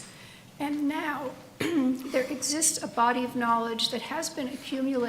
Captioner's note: clears throat